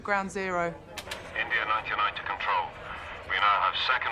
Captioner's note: man over radio